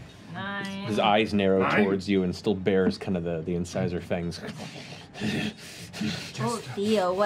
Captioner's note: breathes heavily